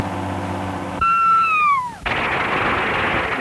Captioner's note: screaming; car crashing